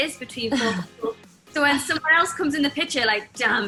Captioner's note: laughs